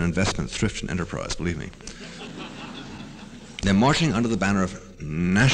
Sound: laughter

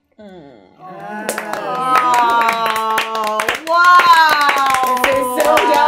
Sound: all clapping

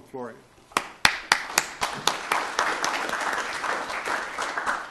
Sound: applause

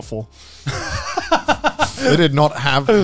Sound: laughs

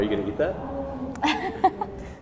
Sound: laughing

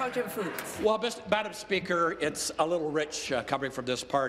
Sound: applause

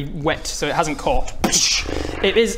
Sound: boosh

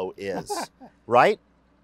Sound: laughs

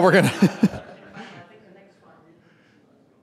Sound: laughs

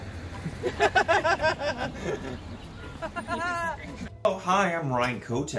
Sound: cast laughing

